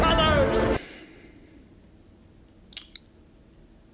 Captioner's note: sighs